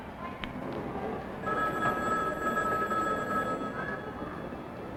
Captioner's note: phone ringing